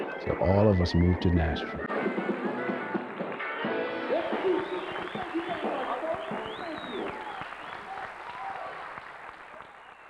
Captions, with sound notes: So all of us moved to Nashville. (bright music) (audience cheering)